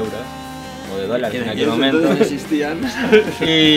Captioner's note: laughs